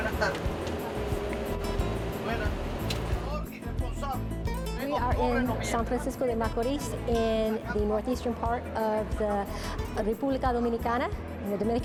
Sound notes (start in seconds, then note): 5.8 speaking in Spanish; 10.0 speaking in Spanish